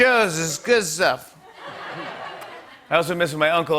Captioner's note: normal voice